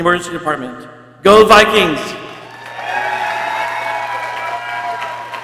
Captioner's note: people cheering